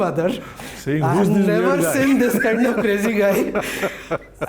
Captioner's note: laughs